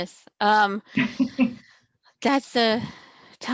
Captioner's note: laugh